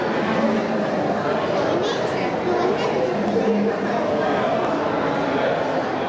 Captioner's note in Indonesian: suara anak-anak